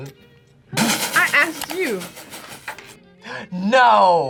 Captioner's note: laughs